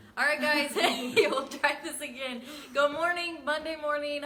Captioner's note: chuckles